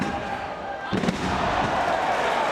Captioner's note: spectators exclaiming; spectators applauding